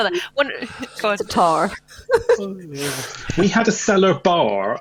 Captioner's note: laughter